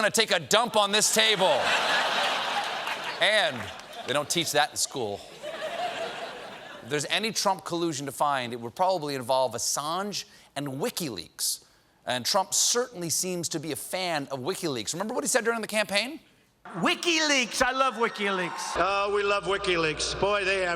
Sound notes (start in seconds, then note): 1.1 laughter